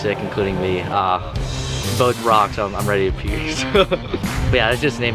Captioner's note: chuckles